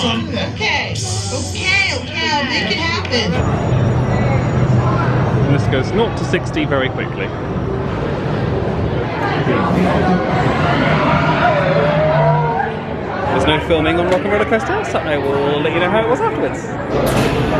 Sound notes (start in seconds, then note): 10.4 riders scream